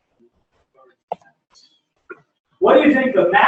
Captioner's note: pause